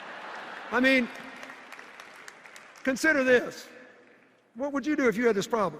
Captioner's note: laughter and cheers